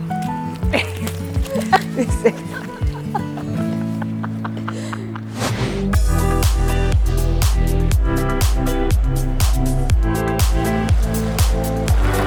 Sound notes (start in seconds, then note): 0.6 laughter, upbeat music; 3.5 laughter; 5.8 lively music